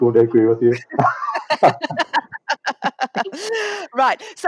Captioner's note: laughter